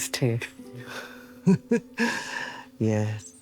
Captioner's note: Evelyn chuckling